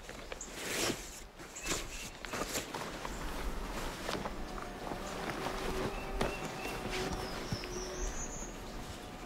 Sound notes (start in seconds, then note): 1.4 birds chirping